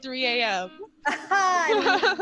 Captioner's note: laughter